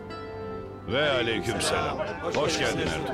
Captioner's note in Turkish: Hep bir ağızdan